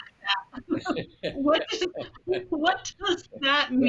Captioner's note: laughing